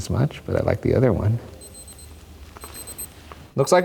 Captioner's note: watch beeping